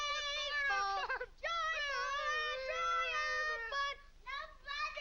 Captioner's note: shouts muffled